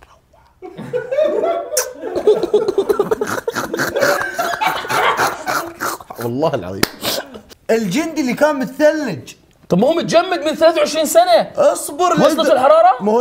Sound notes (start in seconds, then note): 0.6 laughs; 3.2 snorts